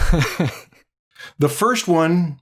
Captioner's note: chuckles